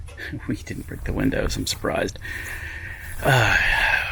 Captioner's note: none